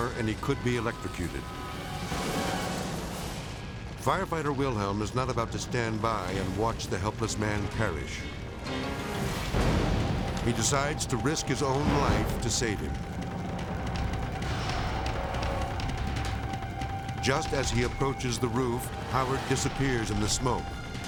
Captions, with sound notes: and he could be electrocuted. (explosion blasts) Firefighter Wilhelm is not about to stand by and watch the helpless man perish. (explosion rumbles) He decides to risk his own life to save him. (intense orchestral music) Just as he approaches the roof, Howard disappears in the smoke.